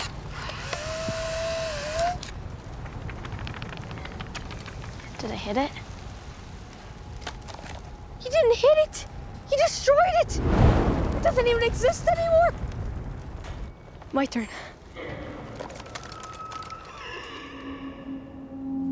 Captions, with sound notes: Did I hit it? You didn't hit it. You destroyed it! It doesn't even exist anymore! My turn. [faint howling in distance]